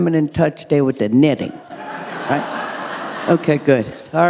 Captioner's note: audience laughing